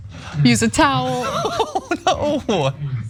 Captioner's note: laugh